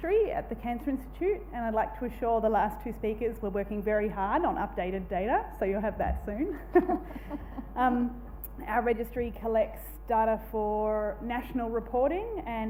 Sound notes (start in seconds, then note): 6.6 laughs